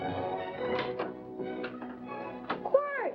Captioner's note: door opening